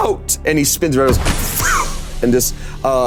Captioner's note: loud whooshing wind